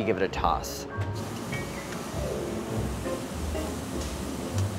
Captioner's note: chicken sizzles